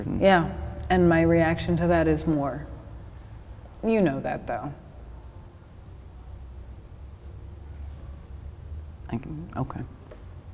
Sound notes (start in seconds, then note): none